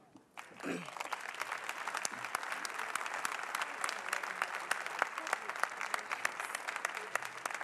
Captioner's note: applause